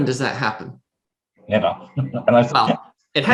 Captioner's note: laughs